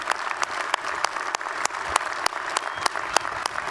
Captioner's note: applause